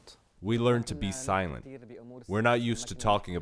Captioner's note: through translator